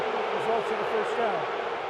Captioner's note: booing